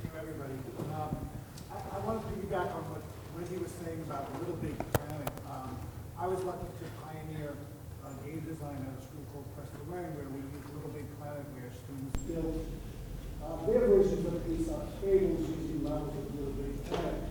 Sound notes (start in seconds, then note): 0.2 voiceover; 8.9 speaks off-microphone